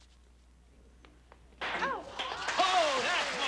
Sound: loud slap

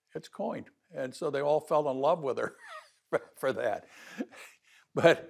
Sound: laughs

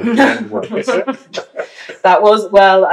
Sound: laughter

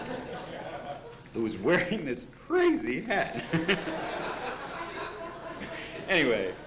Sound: laughter; laughter

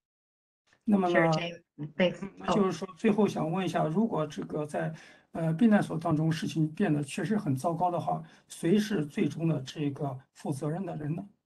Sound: speaks in Mandarin

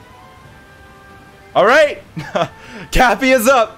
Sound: laughs

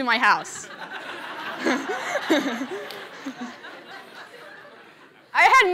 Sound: laughter

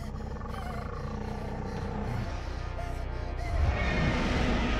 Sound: dinosaur growls

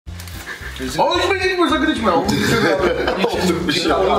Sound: chattering

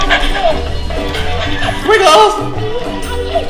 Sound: dog panting

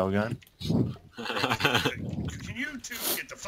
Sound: laughs

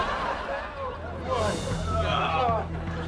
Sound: groaning

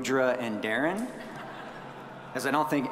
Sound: audience chuckling

